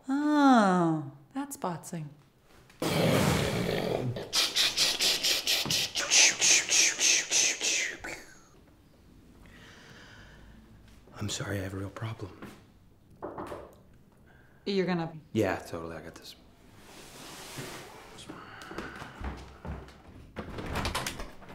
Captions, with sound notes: Oh, that's botzing. ch-ch-ch-ch-ch. I'm sorry. I have a real problem. (Knocking) -You're gonna -- -Yeah, totally. I got this.